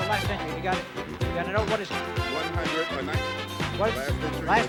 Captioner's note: man speaks softly